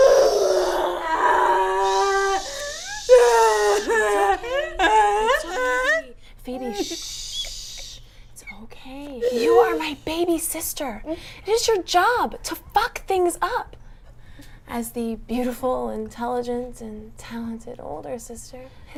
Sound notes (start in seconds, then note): 2.8 Phoebe crying